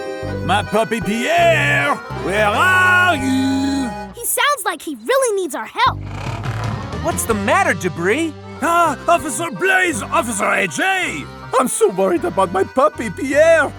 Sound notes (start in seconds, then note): none